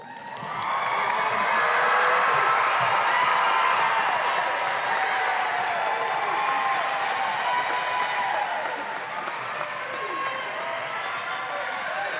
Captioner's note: audience applause and cheers